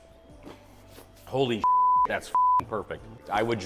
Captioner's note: beep